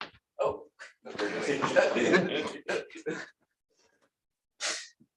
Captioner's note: laughter